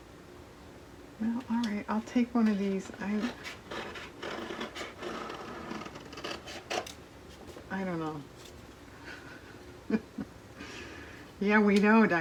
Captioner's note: laughs